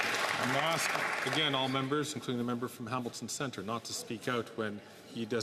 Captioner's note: some Applause